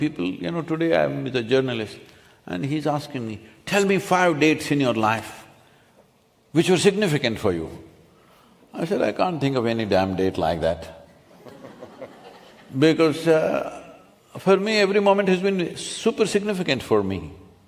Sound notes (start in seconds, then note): 11.3 laughter